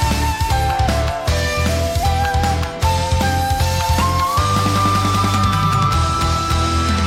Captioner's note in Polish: Aplauz